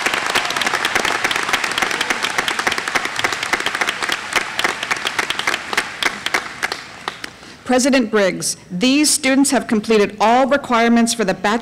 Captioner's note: applause